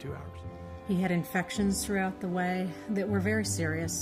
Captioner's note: voiceover